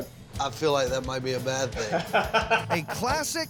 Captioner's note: laughs